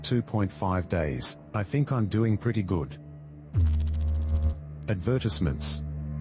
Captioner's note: electrical noise